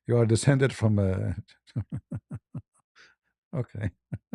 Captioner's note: ketawa